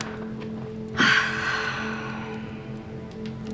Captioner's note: sighs